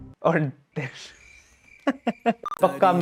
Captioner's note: laughing